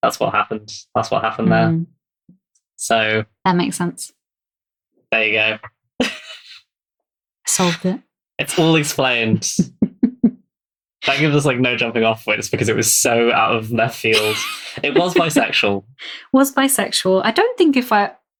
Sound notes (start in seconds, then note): 9.1 laughs